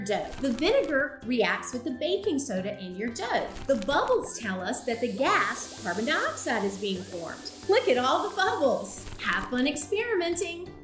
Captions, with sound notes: The vinegar reacts with the baking soda in your dough. The bubbles tell us, that the gas, carbon dioxide, is being formed. [chemical fizzing] Look at all the bubbles! Have fun experimenting!